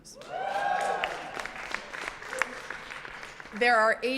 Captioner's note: audience cheers and applauds